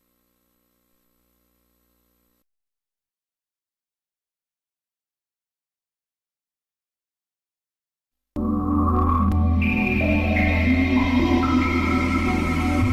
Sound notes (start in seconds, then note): 3.4 silence; 8.4 128-bit video game music